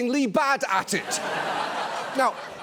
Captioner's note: audience laughs